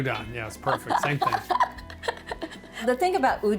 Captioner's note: laughs